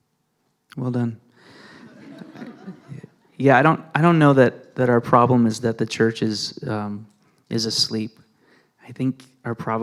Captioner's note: laughter